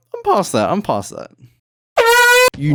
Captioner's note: horn